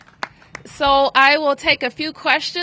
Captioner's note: applause